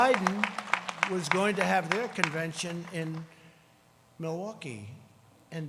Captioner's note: crowd cheering